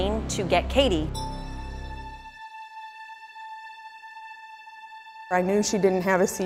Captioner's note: eerie sound